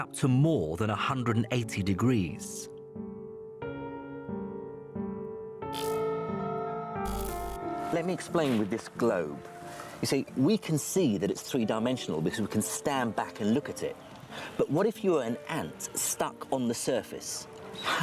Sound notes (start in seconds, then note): 7.0 discordant music; 7.0 static buzzes